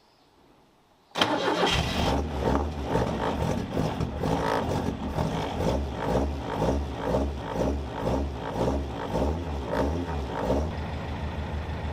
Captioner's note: engine whirring